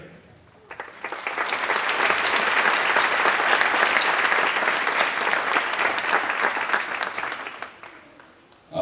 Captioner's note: applause